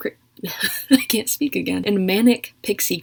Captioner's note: laughs